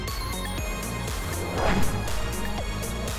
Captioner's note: whooshing; upbeat music